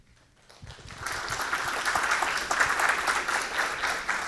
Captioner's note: audience clapping